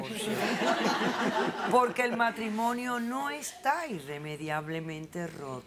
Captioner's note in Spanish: risas del publico